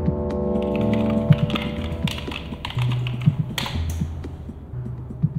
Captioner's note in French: Bruits de clavier